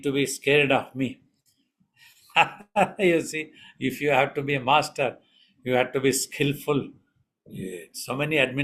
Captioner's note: laughs